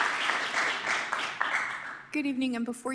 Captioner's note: applause